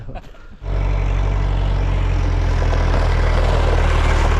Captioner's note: tractor revving